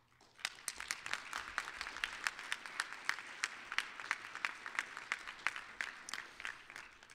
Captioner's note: applause